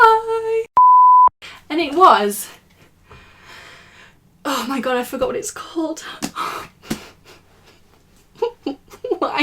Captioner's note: laughing in despair